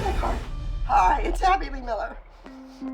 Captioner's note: voice breaking